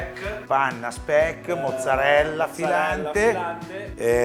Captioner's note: italian sarcasm